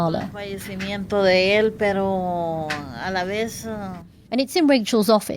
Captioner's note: crying